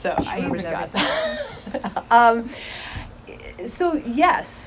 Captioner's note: laughing